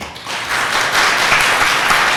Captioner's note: clapping